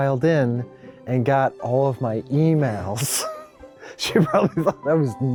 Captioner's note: laughs